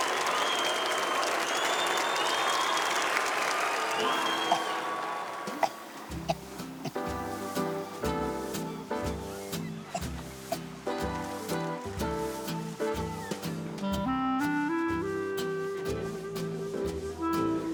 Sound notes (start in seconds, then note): 4.2 soft music; 6.2 boy coughing